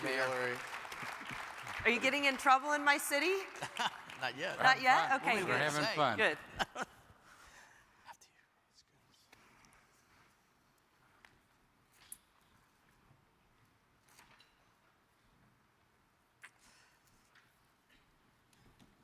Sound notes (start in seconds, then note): 0.0 audience applauds